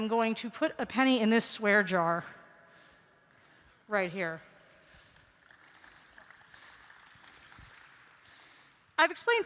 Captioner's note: applause